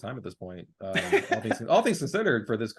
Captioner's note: laughing